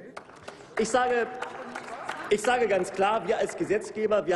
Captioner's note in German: Applaus